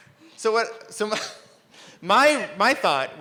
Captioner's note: laughs